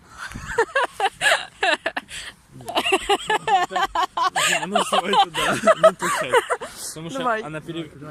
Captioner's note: death laughter